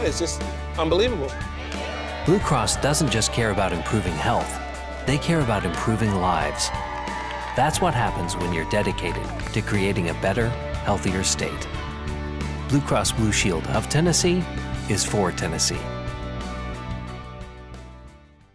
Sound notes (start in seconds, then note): 2.5 voiceover